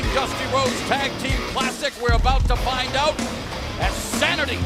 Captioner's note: none